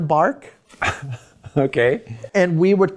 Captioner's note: chuckles